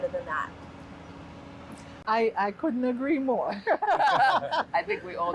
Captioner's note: all laughing